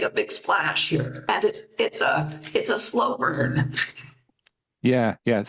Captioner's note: chuckles